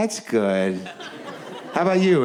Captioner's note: audience laughs